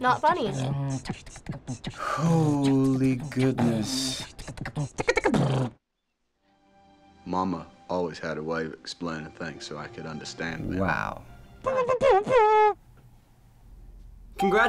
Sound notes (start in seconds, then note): 0.7 exhale; 5.1 beat boxing ends; 11.6 mouth noises